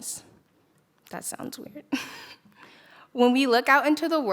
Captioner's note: chuckles